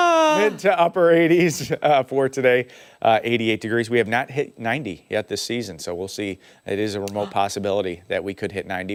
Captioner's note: laughter